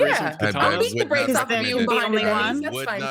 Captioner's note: people chattering